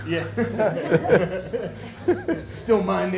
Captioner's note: laughs